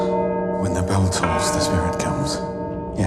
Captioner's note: bell tolling